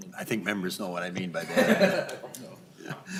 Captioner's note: laughter